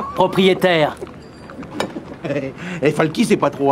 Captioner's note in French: rires